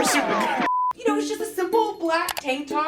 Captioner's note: beep